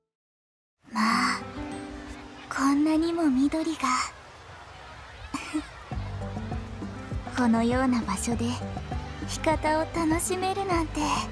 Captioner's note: giggle